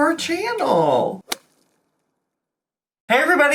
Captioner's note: slapping sound effect